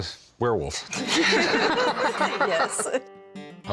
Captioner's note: both laugh